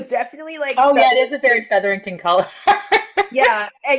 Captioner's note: laughs